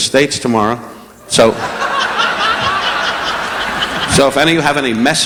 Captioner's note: audience laughing